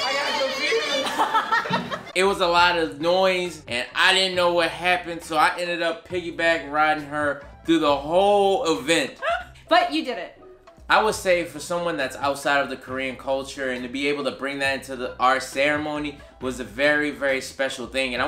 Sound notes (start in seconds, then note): 0.1 laughing; 9.2 giggles